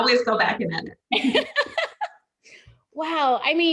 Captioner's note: laughs